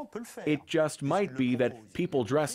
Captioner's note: speaking French